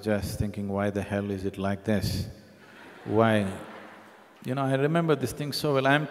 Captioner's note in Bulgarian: Смях